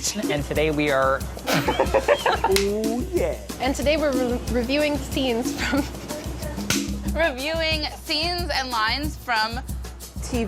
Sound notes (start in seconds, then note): 1.4 laughing; 2.4 smacking; 5.4 laughs; 6.6 smacking